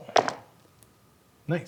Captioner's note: dice rolling